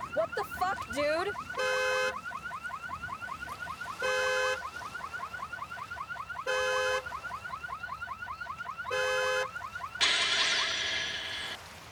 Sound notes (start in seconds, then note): 1.6 car horn honks; 4.2 car alarm blares; 10.0 dramatic musical score